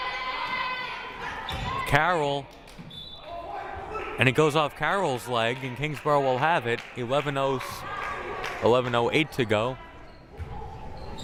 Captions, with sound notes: Carroll. (whistle blaring) And it goes off Carroll's leg, and Kingsborough will have it, 11:08 to go.